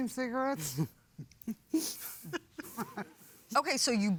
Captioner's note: chuckling